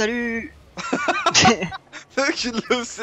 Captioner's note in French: Rires